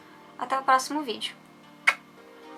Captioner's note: kiss